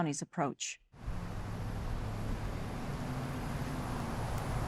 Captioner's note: tires screeching